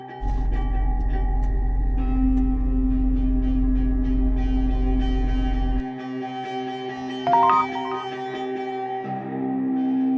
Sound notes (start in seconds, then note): 7.2 text sound; 7.2 dark music